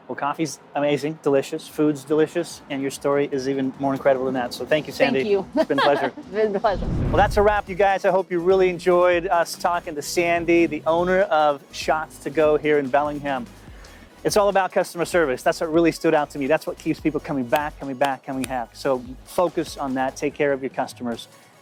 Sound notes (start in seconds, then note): 5.4 laughing